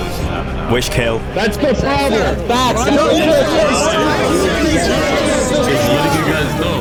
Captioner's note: outrage from crowd